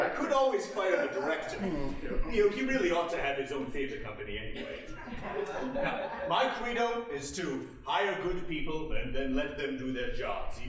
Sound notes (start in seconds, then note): 5.0 audience laughing